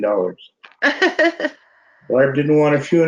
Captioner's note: panel laughs